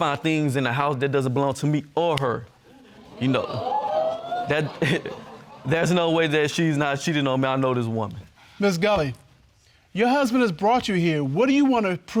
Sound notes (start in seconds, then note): 3.1 audience exclaiming